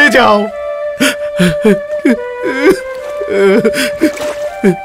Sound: crying

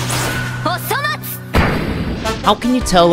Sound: speaks in Japanese

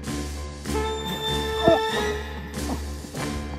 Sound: rattle of pain

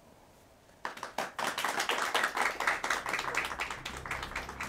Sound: audience applauding

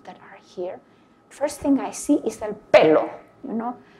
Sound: vocalizes plosive blast

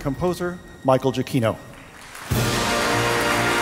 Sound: applause

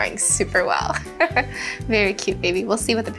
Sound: chuckles

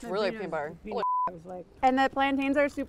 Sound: beep

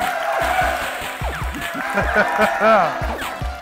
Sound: applauding

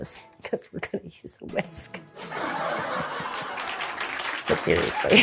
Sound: crowd laughs

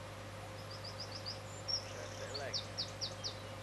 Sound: loud Bird Song

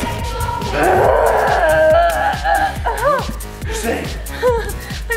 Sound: mom's zombie growling

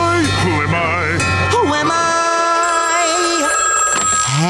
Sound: phone ringing

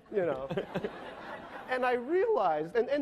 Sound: laughing

